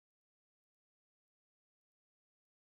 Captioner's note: none